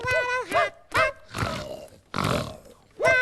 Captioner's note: snore snore